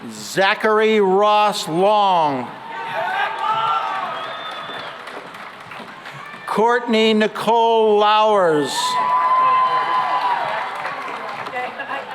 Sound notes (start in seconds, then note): 2.4 cheering and applause; 8.4 cheering and applause